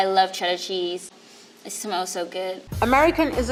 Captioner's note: deeply inhales